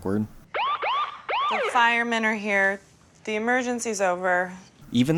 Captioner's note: siren sounding